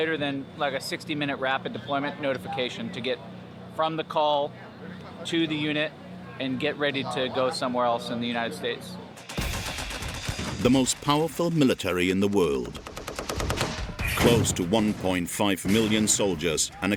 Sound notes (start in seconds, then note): 9.2 guns firing